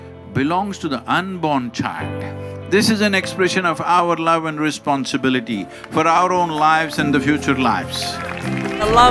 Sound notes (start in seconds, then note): 7.9 applause